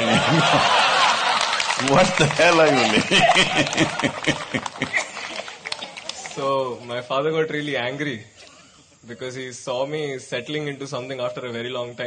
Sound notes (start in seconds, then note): 4.5 laughter/Applause